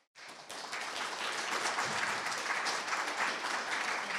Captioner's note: audience applauding